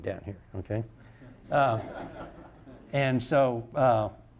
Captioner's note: audience laughter